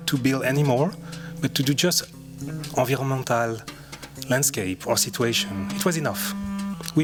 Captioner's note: french